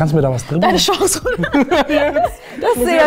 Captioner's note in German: Lachen